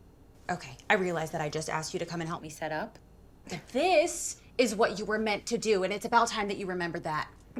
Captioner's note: none